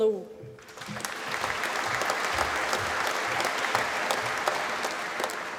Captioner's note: applause